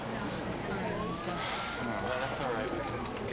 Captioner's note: sighs